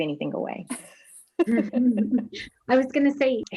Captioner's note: laughs